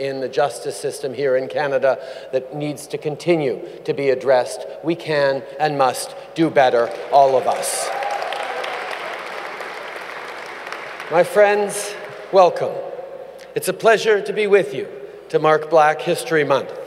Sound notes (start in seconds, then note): 6.8 applause